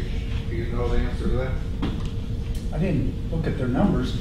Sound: voiceover

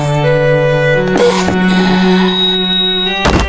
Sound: inhales

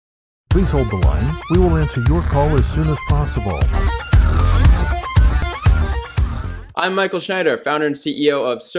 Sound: voiceover

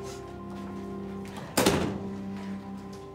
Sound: door shuts

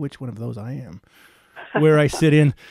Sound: laughing

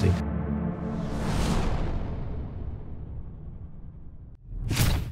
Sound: low rumble sound

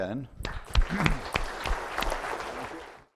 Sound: applause

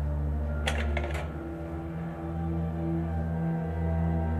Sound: button clicks

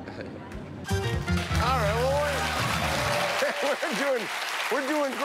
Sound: cheers and applause

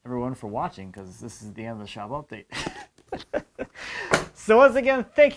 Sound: laughs

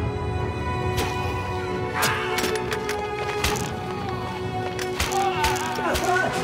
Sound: arrows whooshing; men groaning

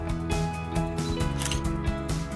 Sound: camera snap sound

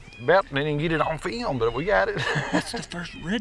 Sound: chuckles

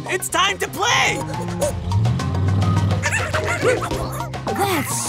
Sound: monkey noises

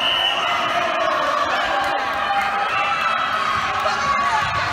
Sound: applauding

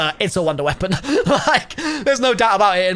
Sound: laughs

